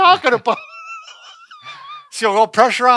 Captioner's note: both laughing